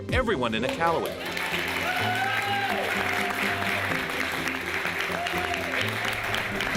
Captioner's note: crowd applauding and cheering